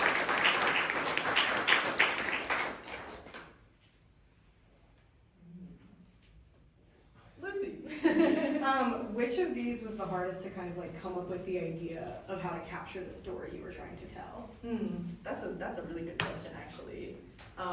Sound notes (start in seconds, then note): 8.2 laughs